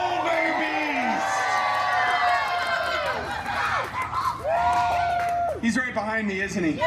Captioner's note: guests cheering and screaming